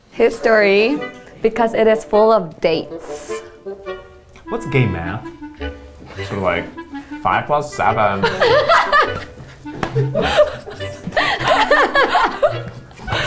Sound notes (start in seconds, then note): 6.9 flamboyant voice; 8.0 laughing